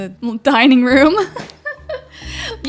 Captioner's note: laughs